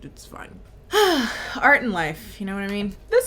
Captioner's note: sighing